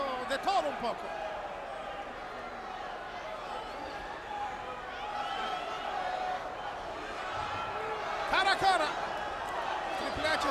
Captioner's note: applause